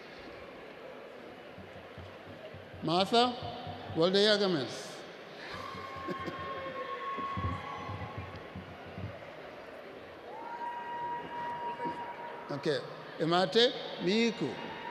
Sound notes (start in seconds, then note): 3.4 laughs; 5.4 cheering